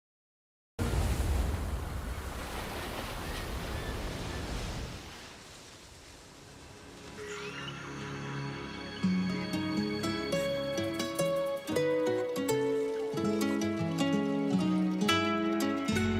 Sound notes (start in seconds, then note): 0.7 waves gently crashing; 7.1 jungle birds singing; 12.3 slow mexican guitar playing